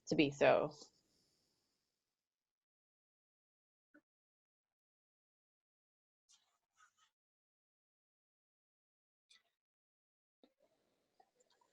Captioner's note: silence